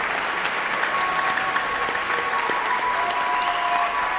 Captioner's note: people cheering